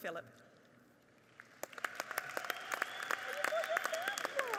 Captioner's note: audience applauding